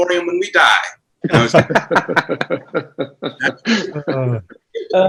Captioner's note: everyone laughs